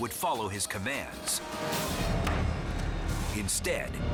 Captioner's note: jaw snapping